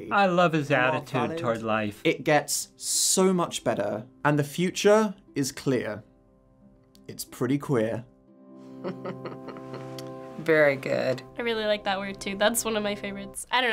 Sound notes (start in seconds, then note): 8.8 chuckles